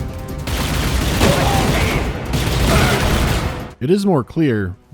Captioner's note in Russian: сдержанный, монотонный автоматический огонь